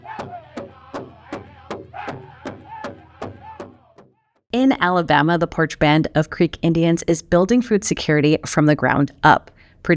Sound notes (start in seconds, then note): 0.0 group chanting continues